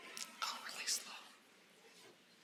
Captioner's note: whispering